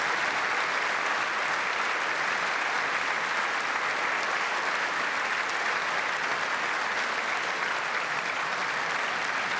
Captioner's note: applause